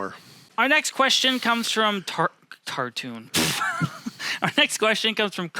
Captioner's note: laughs